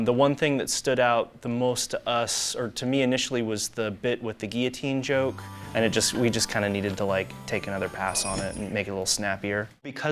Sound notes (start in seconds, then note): 8.0 jingling; 9.5 low jazz music